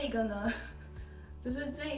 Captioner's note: laugh